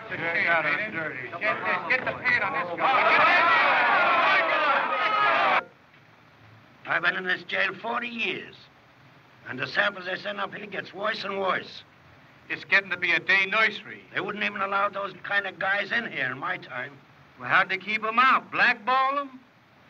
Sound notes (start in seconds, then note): 2.4 men Jeering